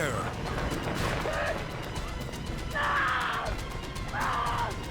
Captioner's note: screaming